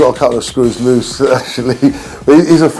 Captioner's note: laughs